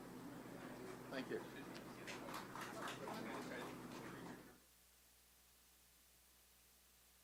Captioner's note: applause